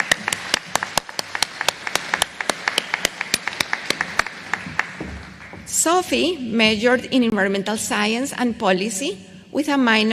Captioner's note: applause